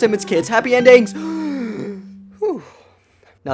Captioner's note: deep breath